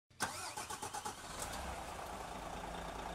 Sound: engine starting

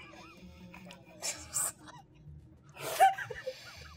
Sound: gamers laughing

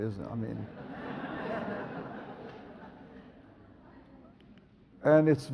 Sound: audience laughs

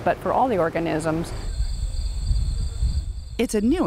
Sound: insects chirping

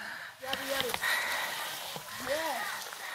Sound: beware of our breathing sound while going up to a highland

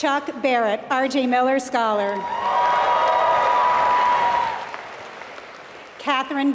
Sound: applause

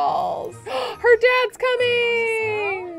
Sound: gasps

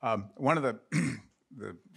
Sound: coughs

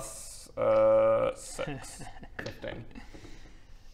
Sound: worrying DM giggle

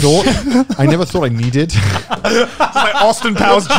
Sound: everyone laughs

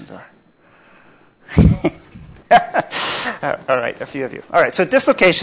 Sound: laughs

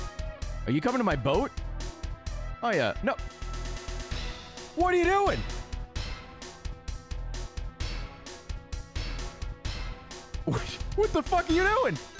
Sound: laughs

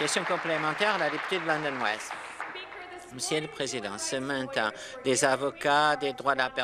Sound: applause

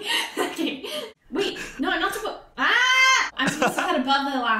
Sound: laughs; yells

